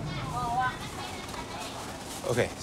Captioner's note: people speaking in foreign language